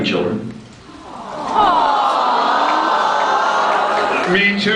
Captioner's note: many awwwwws